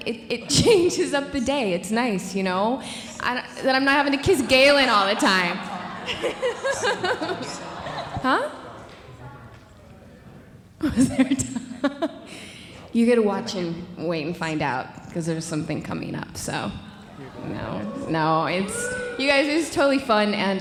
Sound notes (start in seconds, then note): 5.7 audience laughing; 8.4 indistinct conversation